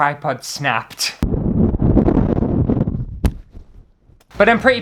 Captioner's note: thud!; wind Noises